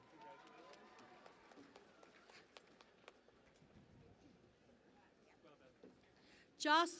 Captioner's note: cheering and Applause